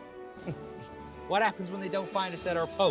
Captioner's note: chuckling